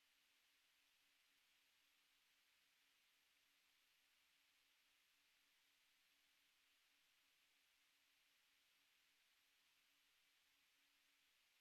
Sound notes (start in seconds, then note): none